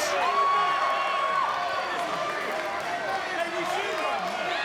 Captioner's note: crowd murmuring